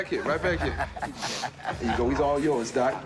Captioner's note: laughs